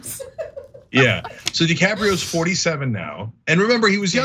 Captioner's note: laugh